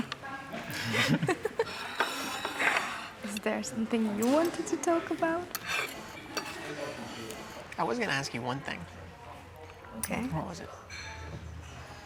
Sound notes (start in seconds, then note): 0.0 giggling; 0.7 laughing; 5.4 utensils scraping